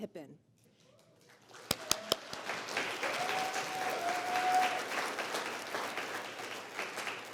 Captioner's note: applause